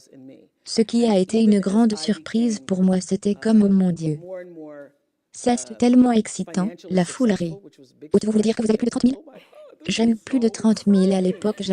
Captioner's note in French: la foule rit